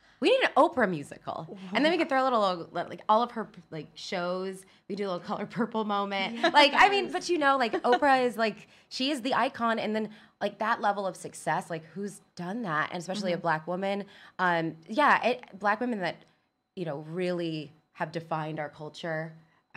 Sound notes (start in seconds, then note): 6.2 laughs